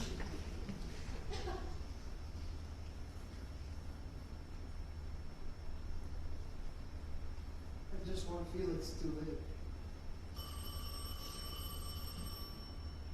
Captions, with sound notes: I just want Felix to live. [PHONE RINGS]